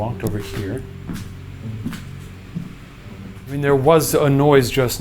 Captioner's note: footsteps padding